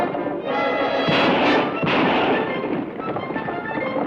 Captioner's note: gun fires